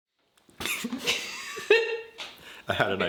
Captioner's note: laughing